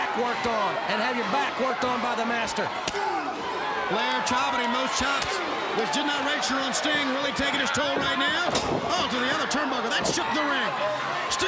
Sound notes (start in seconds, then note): 2.9 crowd cheering